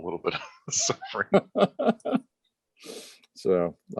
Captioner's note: laughter